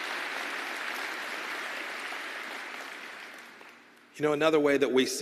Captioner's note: applause